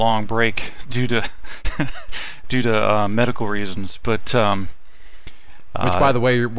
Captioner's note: laughing